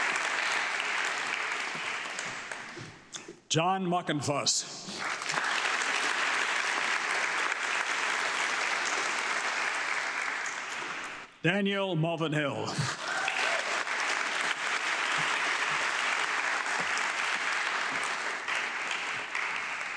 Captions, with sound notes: John Makonvas. (audience clapping) Daniel Mavinhill. (audience clapping)